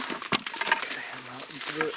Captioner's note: plastic clicking